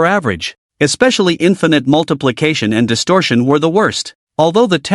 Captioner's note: distortion